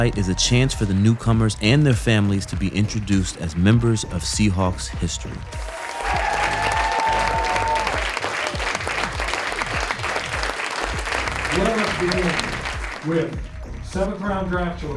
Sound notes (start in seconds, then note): 5.6 crowd clapping